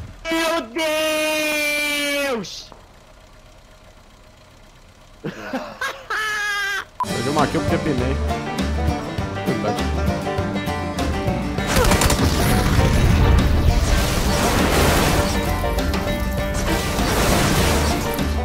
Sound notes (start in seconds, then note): 5.2 laugh; 7.9 country Music; 11.6 car Explode; 12.2 country Music